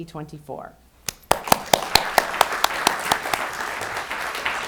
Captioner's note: audience applauding